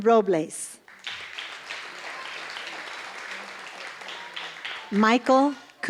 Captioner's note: applause